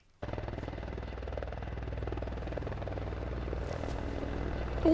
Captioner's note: helicopter engine rumbling